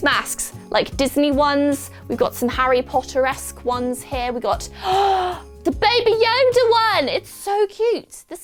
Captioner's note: gasp